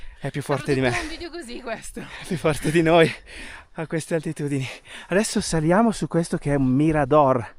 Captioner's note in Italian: risate